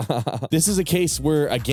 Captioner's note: laughs